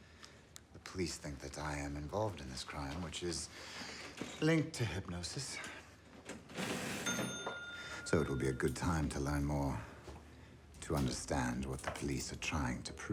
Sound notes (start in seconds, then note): 7.0 register dings